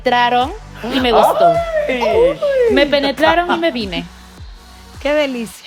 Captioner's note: collective gag